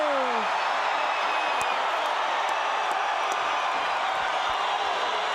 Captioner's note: crowd cheers